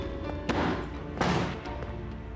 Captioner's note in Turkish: Kapıyı Çarpar